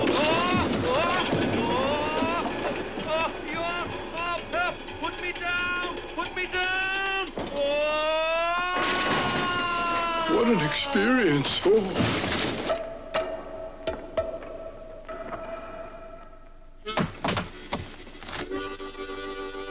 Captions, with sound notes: - Help, put me down, put me down! Oh! (shed crashes) - What an experience, oh! (tree crunches) (bike clanks) (lively harmonica music)